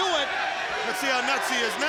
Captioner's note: audience chanting